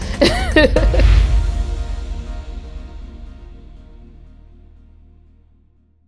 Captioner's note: laughs; impacting music; air whooshing